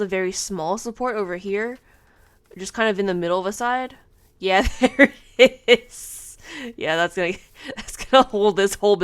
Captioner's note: laughing